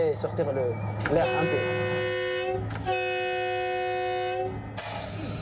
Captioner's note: train horn blaring